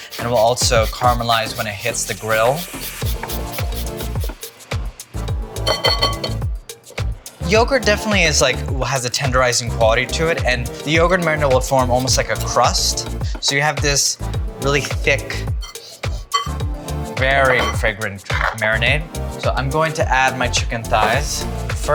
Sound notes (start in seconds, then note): 3.3 garlic scraping; 5.6 bowl clattering